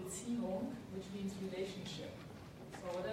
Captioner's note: speaks in foreign language